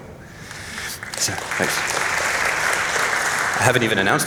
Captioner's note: applause